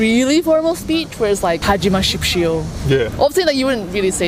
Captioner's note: speaking in Korean